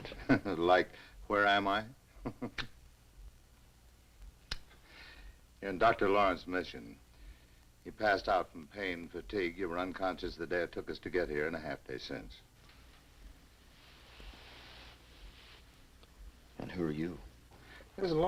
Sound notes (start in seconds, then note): 2.2 chuckles; 2.2 Dan chuckles